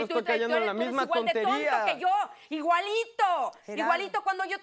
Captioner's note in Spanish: Hablan al unísono